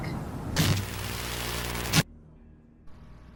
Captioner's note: distorted Scene Change